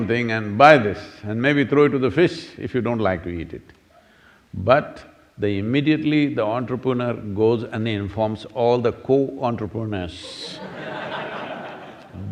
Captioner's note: laughter